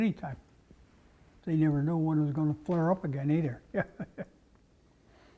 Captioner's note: laugh